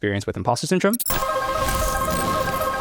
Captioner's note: transition glitching; upbeat music